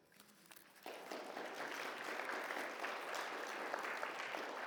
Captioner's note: audience applauds